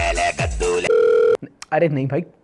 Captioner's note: phone rings